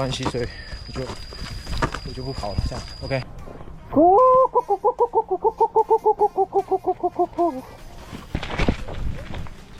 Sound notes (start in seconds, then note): 4.8 cluck cluck cluck cluck cluck cluck cluck cluck cluck cluck cluck cluck